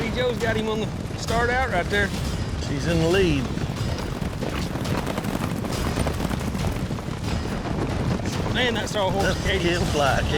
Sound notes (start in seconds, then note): 3.2 fast hoofbeats